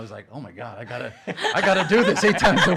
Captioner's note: laughing